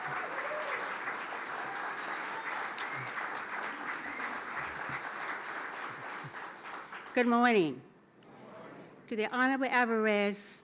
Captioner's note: applause